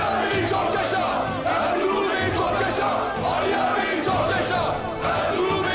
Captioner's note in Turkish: Hep bir ağızdan